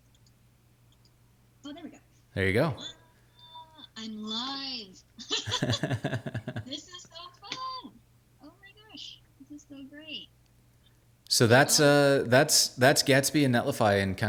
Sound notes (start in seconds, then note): 5.2 laughing